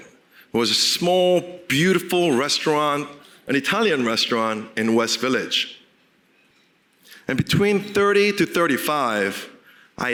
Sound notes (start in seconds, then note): none